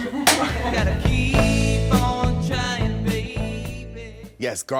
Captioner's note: laughs